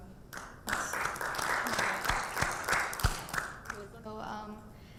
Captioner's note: audience applauding